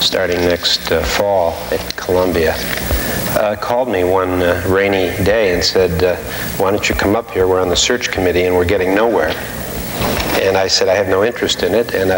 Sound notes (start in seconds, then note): none